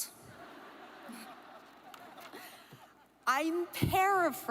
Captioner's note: audience laughs